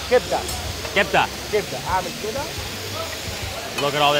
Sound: speaking in foreign language

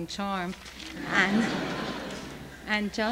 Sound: laughter

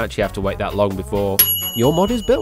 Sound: ding

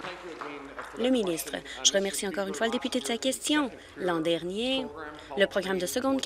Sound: applause

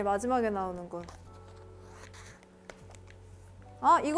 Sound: flipping the calendar softly

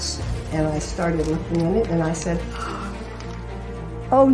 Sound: gasps

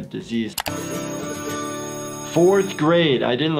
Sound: short jingle; school bell rings

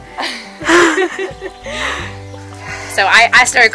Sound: women laughing

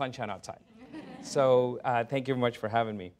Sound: laughter

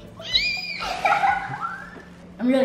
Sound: squealing and giggling

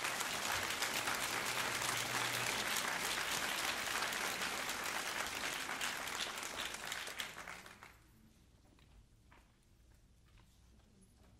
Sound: applause

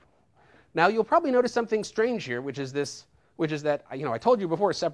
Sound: none

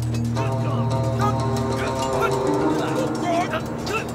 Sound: people fighting

